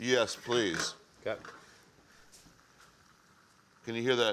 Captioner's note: pan sizzling softly